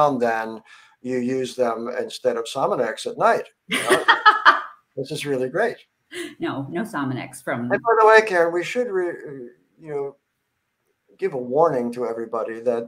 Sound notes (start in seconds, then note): 3.8 laughs